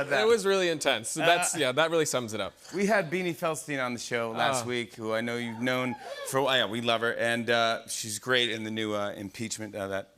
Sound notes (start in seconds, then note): 5.4 audience cheers